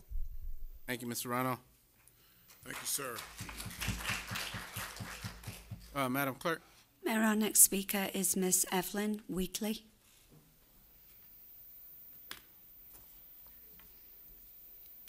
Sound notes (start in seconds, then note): 6.7 applause